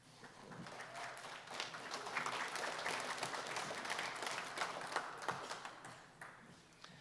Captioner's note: applause